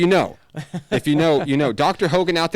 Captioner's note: laughs